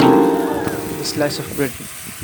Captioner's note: crowd gasps